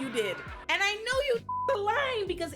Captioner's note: beep